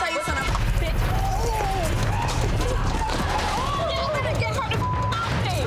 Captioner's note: overlapping chattering